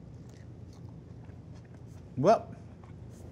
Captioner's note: sandwich crunches